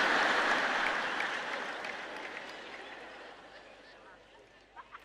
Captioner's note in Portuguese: audiência ri